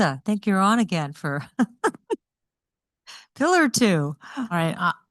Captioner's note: laughs